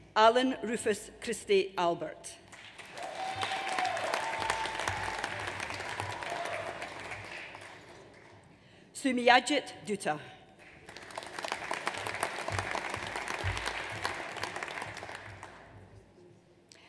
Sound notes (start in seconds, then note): 2.5 audience applauds; 10.6 audience applauds